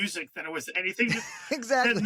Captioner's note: laughs